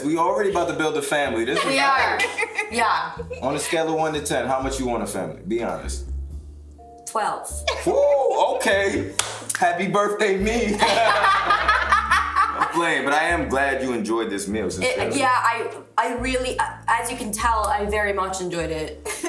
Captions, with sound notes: We already about to build a family. - We are. Yeah. - On a scale of one to 10, how much you want a family? Be honest. - 12. Woo! Okay! (claps) Happy birthday, me! (group laughs) I'm playing, but I am glad you enjoyed this meal. Sincerely. - Yeah, I really, as you can tell, I very much enjoyed it.